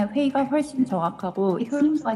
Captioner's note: non-English